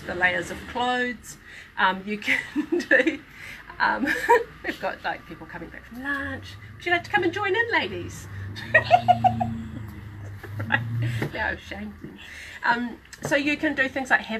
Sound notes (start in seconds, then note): 8.4 laughs